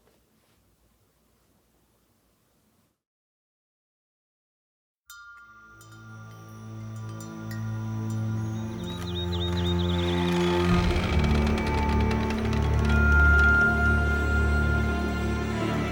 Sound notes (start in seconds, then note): 8.9 door creaking